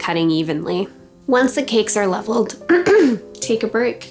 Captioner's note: clears throat